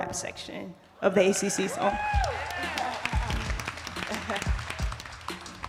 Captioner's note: attendees applauding